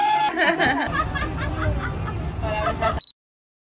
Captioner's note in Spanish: risas